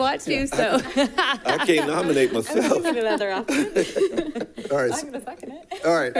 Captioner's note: laughs